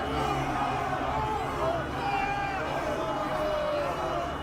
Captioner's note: crowd yelling